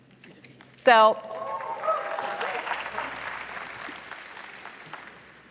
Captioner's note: applause